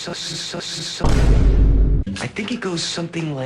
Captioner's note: boom